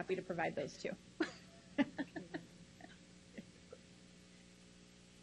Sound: laughs loudly

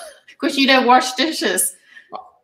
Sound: laughs

